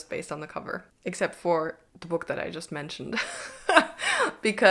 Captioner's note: laughs